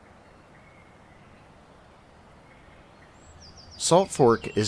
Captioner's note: birds chirping